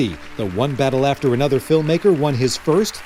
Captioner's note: applause